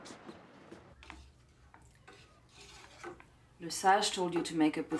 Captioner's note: spoon stirs